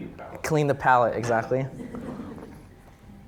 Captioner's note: audience chuckling